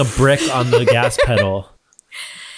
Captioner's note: scoffs